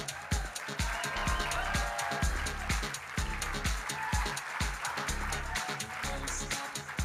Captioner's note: electronic dance music; audience cheering and applauding